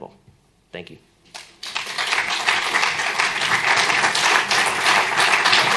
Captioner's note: applause